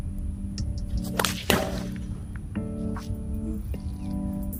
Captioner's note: loud thud